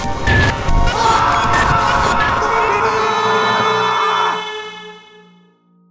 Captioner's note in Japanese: 悲鳴